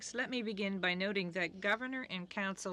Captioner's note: speaking french